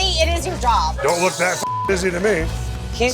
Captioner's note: beep